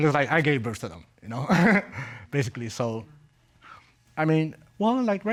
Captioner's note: chuckles